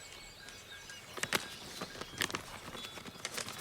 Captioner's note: cow bells ringing